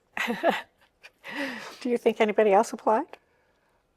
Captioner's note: chuckles